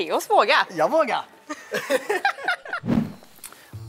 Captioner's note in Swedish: Skratt